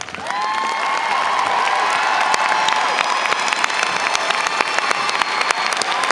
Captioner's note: audience cheers and applauds